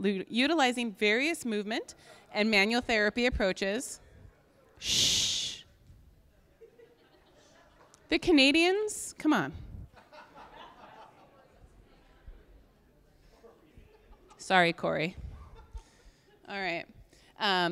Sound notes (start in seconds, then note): 6.3 audience laughing, talking; 9.9 audience laughing